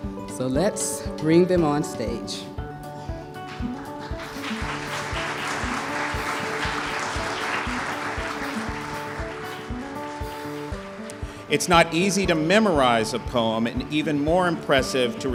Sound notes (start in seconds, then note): 6.7 applause